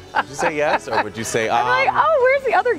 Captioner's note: laughter